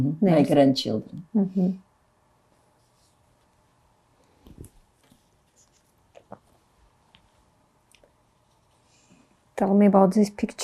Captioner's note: pauses 8 seconds